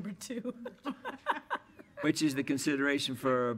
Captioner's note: laughter